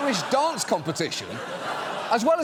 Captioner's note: audience laughs